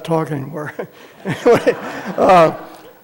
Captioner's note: laughter